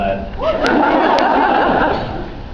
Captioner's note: laughs